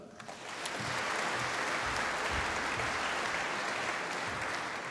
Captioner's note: applause